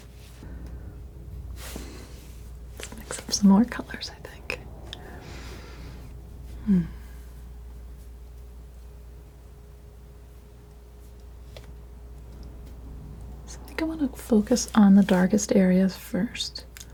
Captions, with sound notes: Let's mix up some more colors, I think. [scratching] I think I want to focus on the darkest areas first.